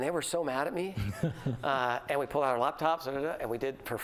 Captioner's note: laughter